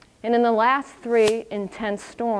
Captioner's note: none